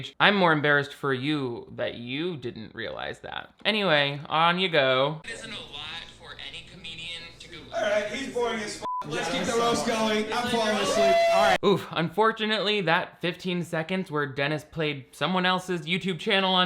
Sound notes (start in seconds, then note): 8.8 beeps; 9.0 group cheers